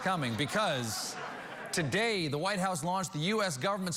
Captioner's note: cheers and applause